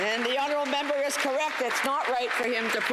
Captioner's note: applause